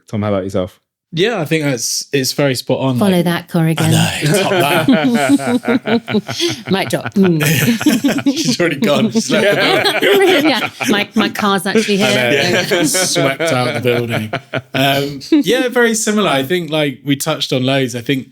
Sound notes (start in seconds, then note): 6.4 laughing; 8.0 laughing